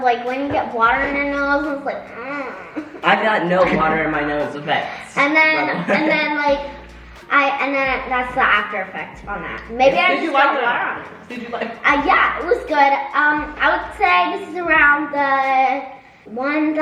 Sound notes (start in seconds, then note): 2.0 moans